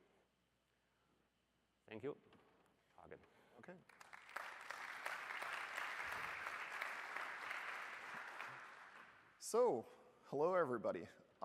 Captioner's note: applause